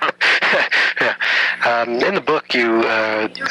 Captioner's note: laughs